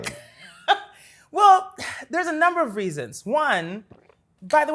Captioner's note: laughs